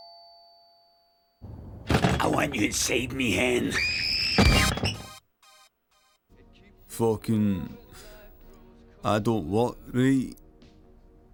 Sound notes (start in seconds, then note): 3.3 screaming